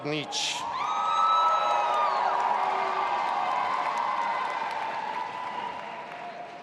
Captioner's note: audience applauding and cheering